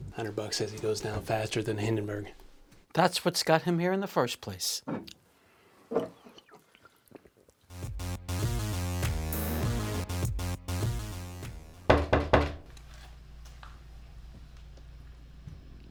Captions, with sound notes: Hundred bucks says he goes now faster than Hindenburg. - That's what's got him here in the first place. (upbeat music) (knocking)